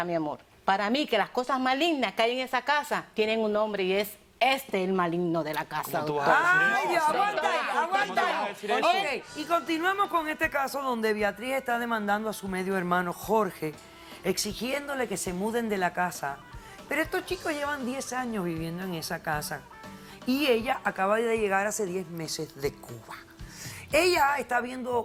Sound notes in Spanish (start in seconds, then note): 9.0 Hablan al unísono